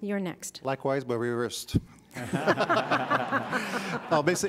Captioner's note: laughter